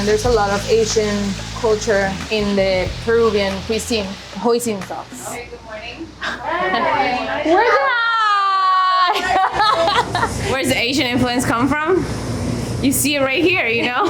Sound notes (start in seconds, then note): 7.5 laughing